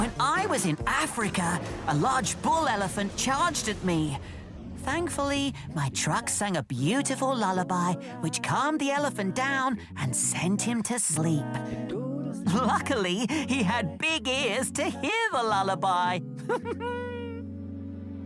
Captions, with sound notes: When I was in Africa, a large bull elephant charged at me! Thankfully, my trucks sung a beautiful lullaby which calmed the elephant down and sent him to sleep. Luckily, he had big ears to hear the lullaby! [THOMAS GIGGLES]